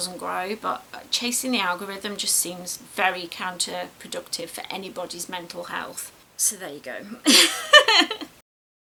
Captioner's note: laughs